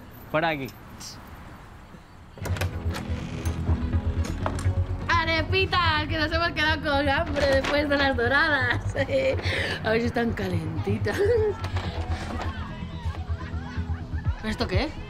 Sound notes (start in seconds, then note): 3.3 electro music; 8.3 laughing; 10.6 laughter and indistinct voices